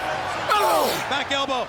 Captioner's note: Luger grunting